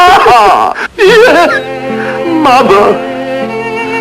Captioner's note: sobs